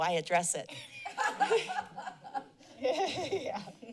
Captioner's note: laughter